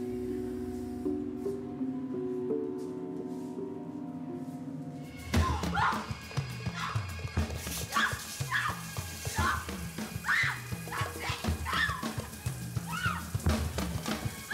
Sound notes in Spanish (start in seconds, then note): 5.3 gritos